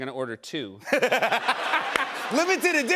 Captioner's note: laughter